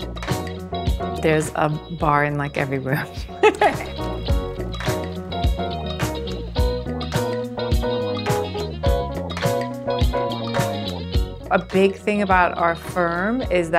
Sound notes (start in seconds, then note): 3.3 laughs; 4.6 upbeat music